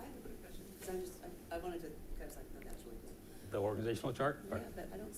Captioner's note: faintly speaking